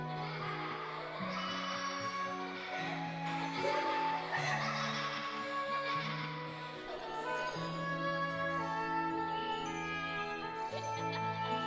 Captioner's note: laughter